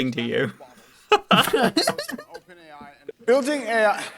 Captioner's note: laughing at AI hallucinations